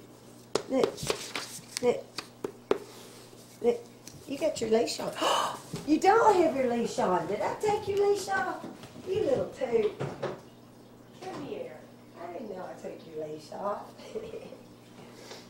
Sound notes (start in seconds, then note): 5.1 gasp; 14.0 laughter